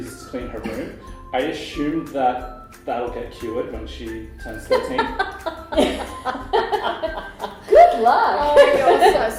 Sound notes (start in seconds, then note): 4.7 laughter